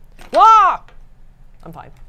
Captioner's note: screams